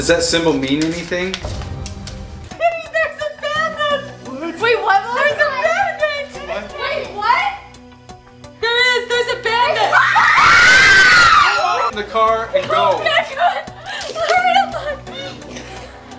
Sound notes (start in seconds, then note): 9.8 girls scream